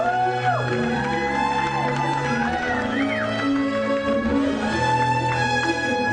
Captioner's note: cheering